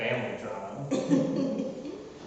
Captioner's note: laughter